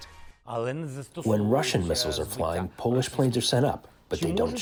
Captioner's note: through translator